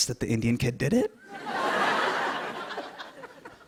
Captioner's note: laughter